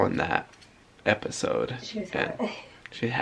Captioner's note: laughing